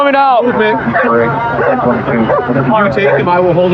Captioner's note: radio ctter